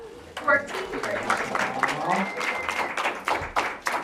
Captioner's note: audience claps